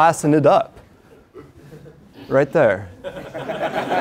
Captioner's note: laugh